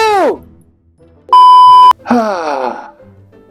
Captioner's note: loud beeping; deep sighing